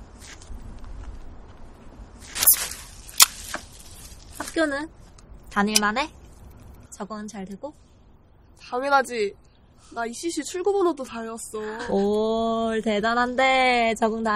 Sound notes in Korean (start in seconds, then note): 2.3 캔 따는 소리